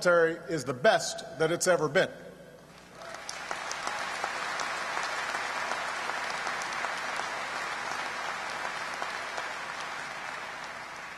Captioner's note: applause